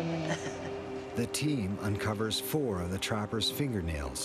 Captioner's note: voiceover